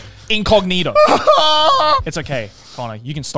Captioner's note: cries